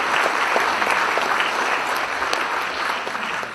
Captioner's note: applause